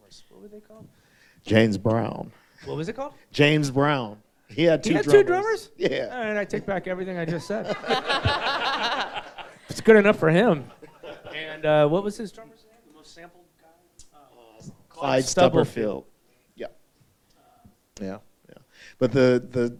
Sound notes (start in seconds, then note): 7.3 all laughing